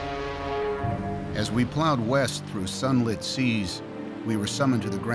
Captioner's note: voiceover